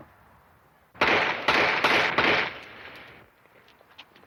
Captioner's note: gun shots